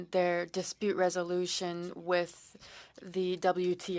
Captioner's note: speaking French